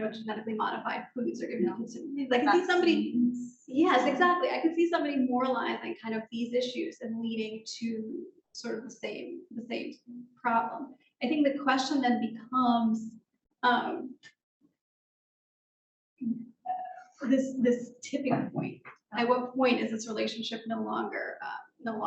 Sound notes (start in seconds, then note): 4.0 speaking faintly